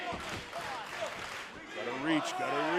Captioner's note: fans chanting